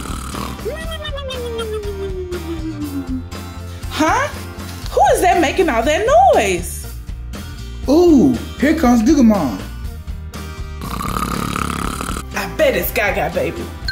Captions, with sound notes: (loud snoring) Huh? Who is that making all that noise? - Ooh, here comes Goo Goo Mom! (pretend snoring) - I bet it's Gaga Baby!